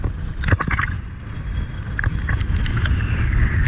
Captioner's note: wind rustling